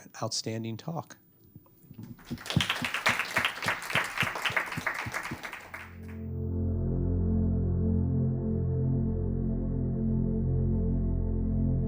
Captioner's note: applause